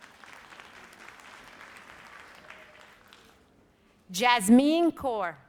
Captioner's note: audience applauds